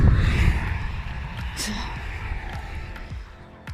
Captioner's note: traffic